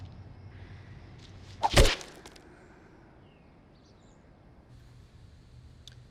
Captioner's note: whacking and crunching